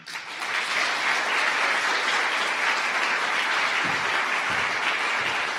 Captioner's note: audience applause